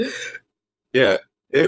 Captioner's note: laughing